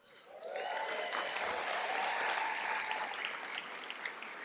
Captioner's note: cheers, applause